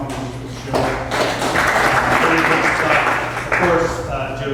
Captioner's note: applause